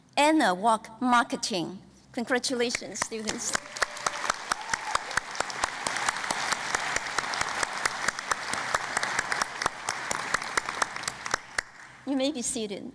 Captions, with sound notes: Anna Wark, Marketing. Congratulation, students. [ Cheering and Applause ] You may be seated.